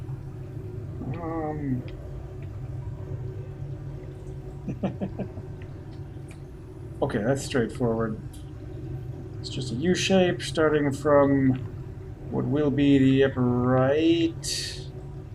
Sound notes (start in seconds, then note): 4.6 chuckles